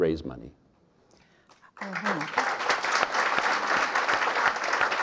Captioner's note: audience applauding